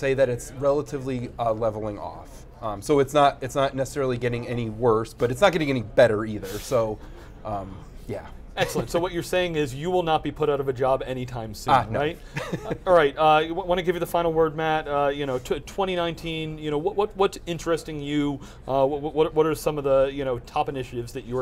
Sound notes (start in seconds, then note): 12.3 laughs